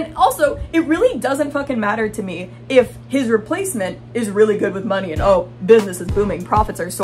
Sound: mocking tone

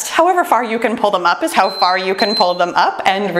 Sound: timer beeps

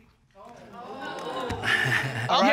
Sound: chuckles nervously

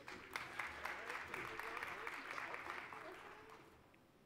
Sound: applause

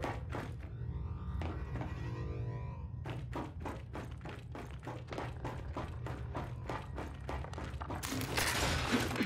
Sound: footsteps

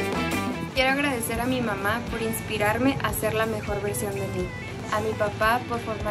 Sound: speaks in foreign language

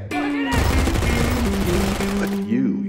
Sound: gunshots

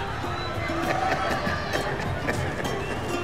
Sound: laughter

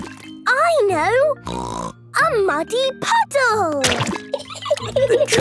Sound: laughing

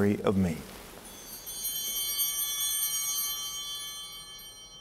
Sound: bell ringing

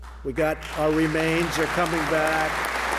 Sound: applause

